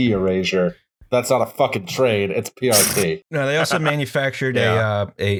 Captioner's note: laughter